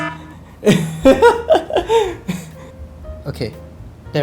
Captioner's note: laughs